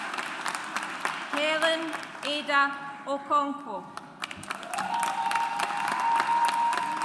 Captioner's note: audience applauds